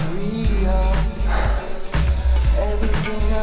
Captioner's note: breathes heavily